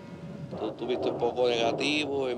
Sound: Pachuco speaking in Cuban Spanish

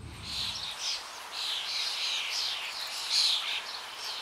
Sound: birds chirping

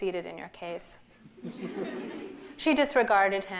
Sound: laughter

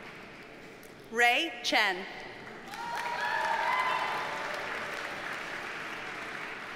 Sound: audience cheers and applauds

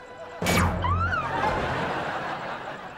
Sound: squealing

